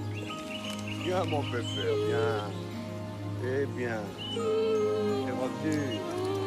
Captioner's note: speaking foreign language